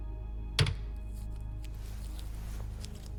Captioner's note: door rattles